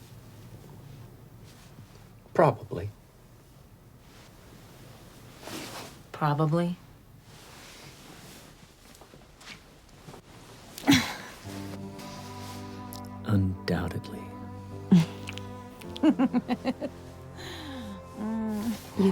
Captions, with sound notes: Probably. Probably? Undoubtedly. [LAUGHS]